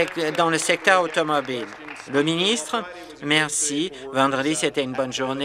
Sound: applause

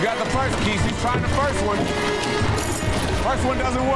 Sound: keys jingling

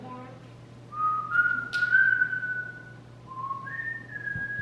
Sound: whistles song

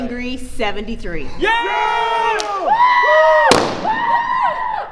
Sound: cheering

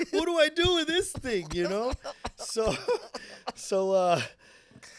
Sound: laughing

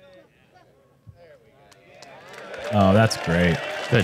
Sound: applause

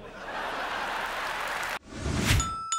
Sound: canned laughter and applause

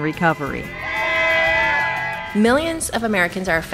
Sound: crowd Cheers

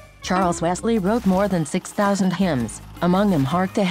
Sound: computer voice

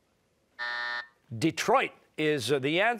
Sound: buzzer

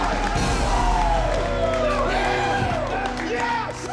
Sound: cheering

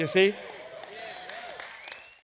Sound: clapping

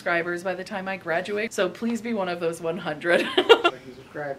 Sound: laughs

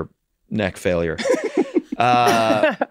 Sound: Megan laughing; Rob laughing

